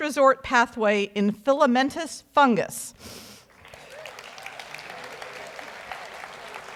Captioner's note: audience applauds